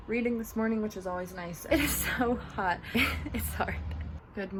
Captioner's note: laughs